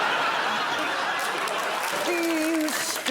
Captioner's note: laughter